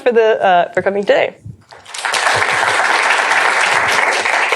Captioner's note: applause